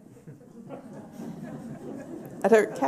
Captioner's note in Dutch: gelach